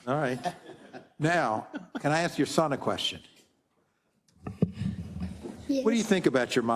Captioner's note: laugh